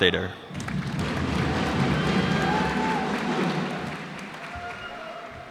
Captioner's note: cheers and applause